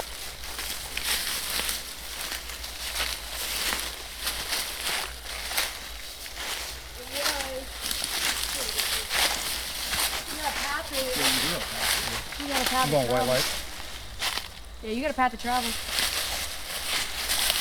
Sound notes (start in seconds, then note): 7.9 indistinct conversation